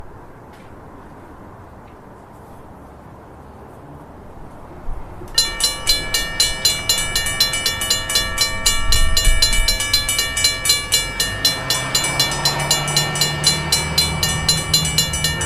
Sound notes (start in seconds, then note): 5.3 crossing bells ringing; 11.0 car passing